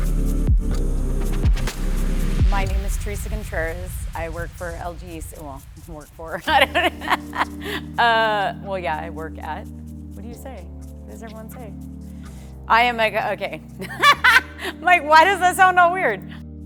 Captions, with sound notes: My name is Theresa Contreras, I work for LGE, well I don't work for. (laughing) Well, yeah, I work at, what do you say, what does everyone say. I am a okay, I'm like why does that sound all weird.